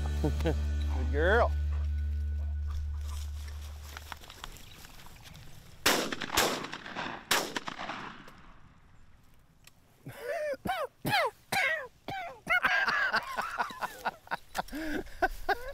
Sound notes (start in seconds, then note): 0.1 chuckles; 5.8 gun firing; 10.1 coughing; 12.2 laughing